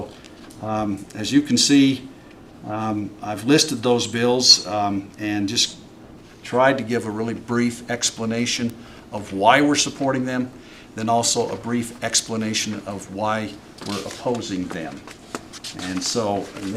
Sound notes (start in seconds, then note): none